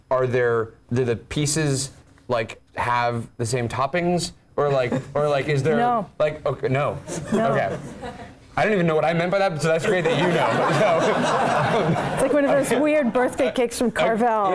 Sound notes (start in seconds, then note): 7.1 laugh; 9.9 laugh